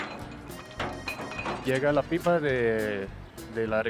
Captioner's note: speaking Spanish